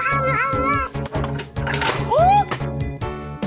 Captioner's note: glass Breaking